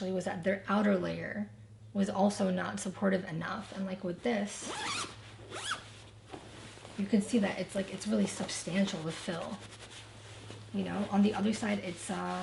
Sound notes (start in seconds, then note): 4.5 zipper zips